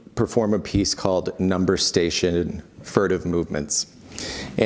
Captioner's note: furtive Movements